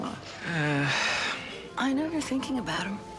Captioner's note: Jack sighing